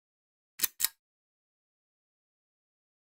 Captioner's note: click